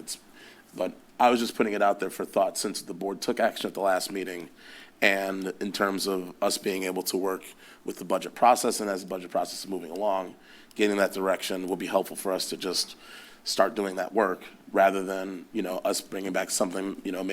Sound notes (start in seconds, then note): none